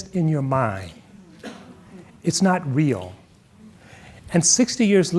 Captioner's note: audience murmuring